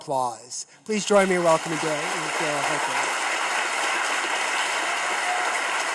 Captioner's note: audience claps